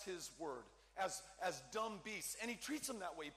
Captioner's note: none